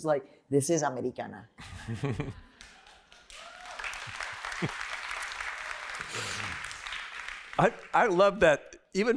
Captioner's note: laughter; applause